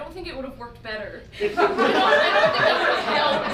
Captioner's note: audience laughs